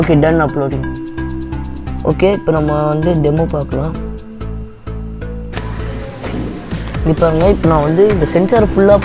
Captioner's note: now the alarm goes off